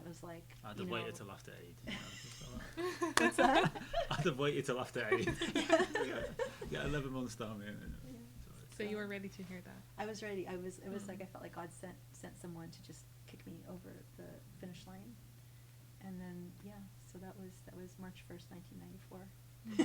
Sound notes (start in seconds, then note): 1.8 group laughing; 5.0 laughing